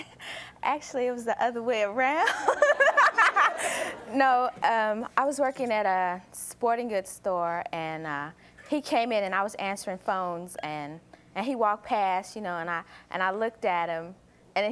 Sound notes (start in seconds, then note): 2.2 laughter; 2.3 laughs